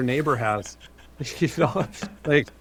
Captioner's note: laughing